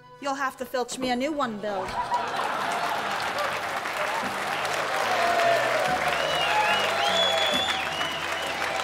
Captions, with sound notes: You'II have to fiIch me a new one, BiII! (ALL CHEERING)